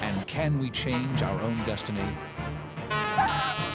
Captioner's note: truck horn blows